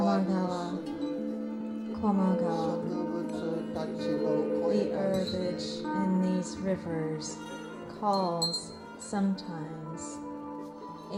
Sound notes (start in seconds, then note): 0.7 reciting; 4.9 Sawako reciting